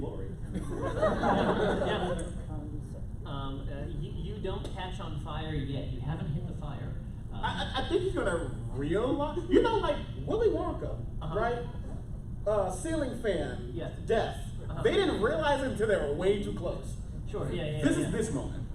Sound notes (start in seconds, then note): 0.4 laughter